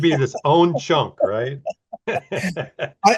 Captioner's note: both laughing